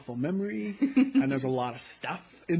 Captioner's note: laughter